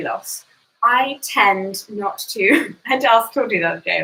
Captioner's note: laughs